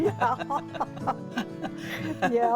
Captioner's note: both laughing